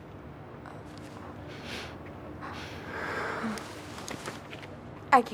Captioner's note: sniffing